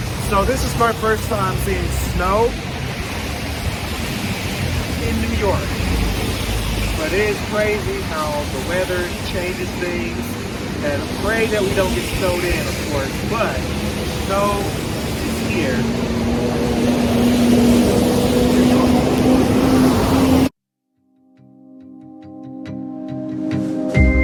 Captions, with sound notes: So this is my first time seeing snow in New York, but it's crazy how the weather changes things and pray that we don't get snowed in of course, but snow is here. (car engines roaring) (gentle music)